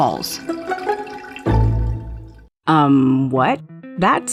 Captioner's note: water spilling